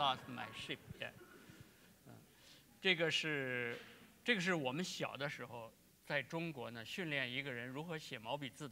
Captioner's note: speaking in Chinese